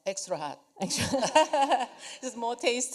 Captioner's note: laughter